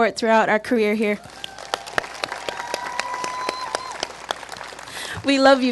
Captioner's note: applause